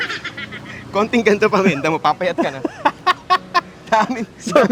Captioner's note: laughs